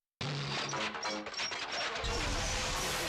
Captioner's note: whirring